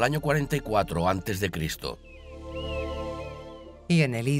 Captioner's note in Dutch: vogels krijsen